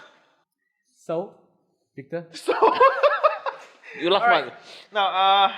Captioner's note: laughs